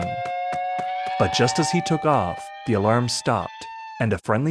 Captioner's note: rising alarm